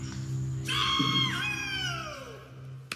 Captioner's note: screaming